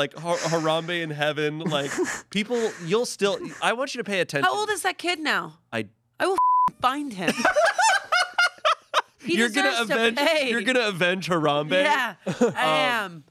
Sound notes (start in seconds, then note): 6.3 beep; 7.3 everyone laughs